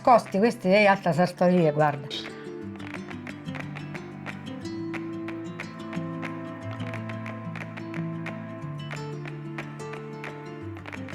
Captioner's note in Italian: Applauso